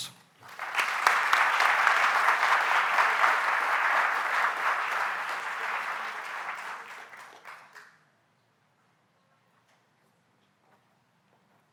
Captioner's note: applause